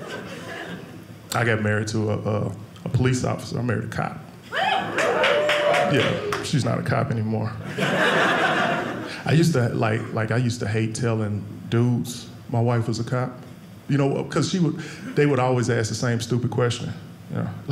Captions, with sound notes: I got married to a police officer. I married a cop. Yeah, she's not a cop anymore. (audience laughing) I used to hate telling dudes my wife was a cop, because they would always ask the same stupid question.